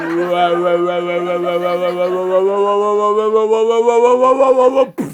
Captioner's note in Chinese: ：声波扭曲声